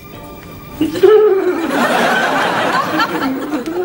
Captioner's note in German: Kichern